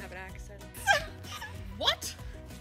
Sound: giggling

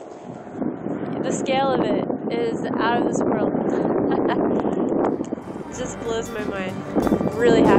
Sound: laugh

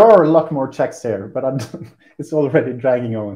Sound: laughs

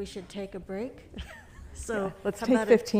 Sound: laughs

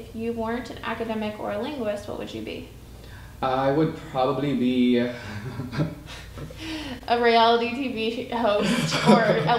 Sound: laughing

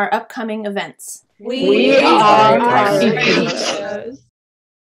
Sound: many voices together; laughter

